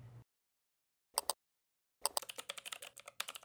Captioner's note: mouse clicks; keyboard typing